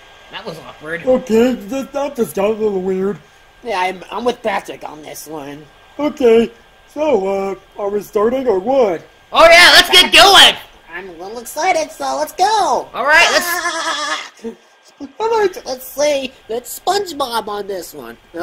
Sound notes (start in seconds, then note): 13.0 laughs